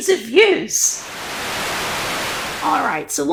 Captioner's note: Static